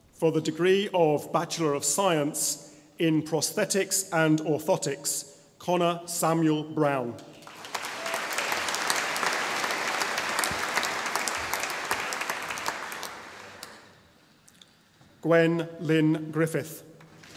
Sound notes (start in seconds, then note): 7.3 audience applauding; 17.1 audience applauding